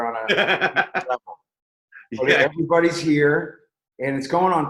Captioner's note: laughs